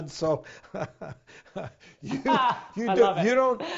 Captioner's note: laughing